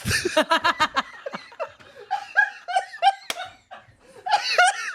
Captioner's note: everyone laughs